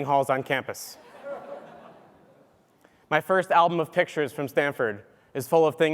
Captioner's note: laugh